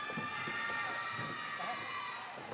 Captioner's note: audience cheering